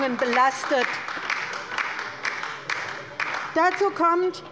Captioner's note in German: Beifall bei der LINKEN